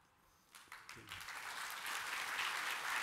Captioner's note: applause